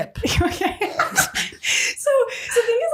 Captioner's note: laughing